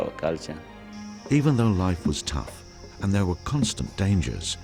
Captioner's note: voiceover